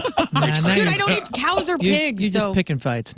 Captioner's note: laughing